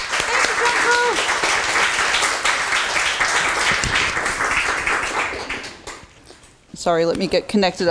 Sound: applause

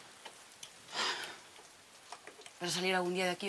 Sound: sighs

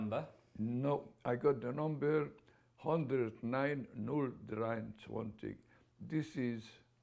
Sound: german

